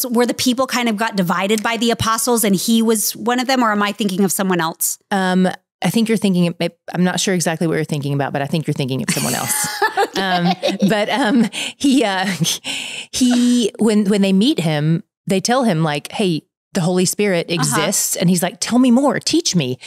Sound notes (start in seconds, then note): 9.1 laughing